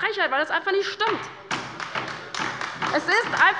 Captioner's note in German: Beifall bei der LINKEN